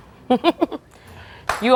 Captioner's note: chuckles